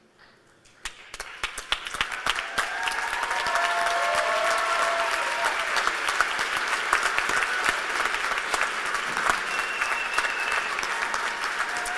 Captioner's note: applause